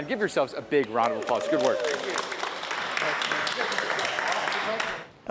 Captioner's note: group claps